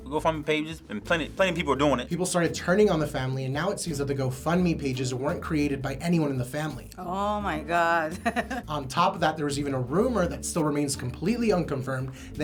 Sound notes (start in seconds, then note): 8.0 chuckles